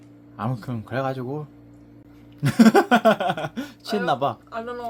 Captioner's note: laughter